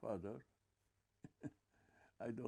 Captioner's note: laughing